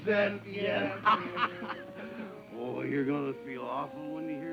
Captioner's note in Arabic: يضحك